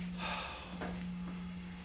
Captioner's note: Harry sighs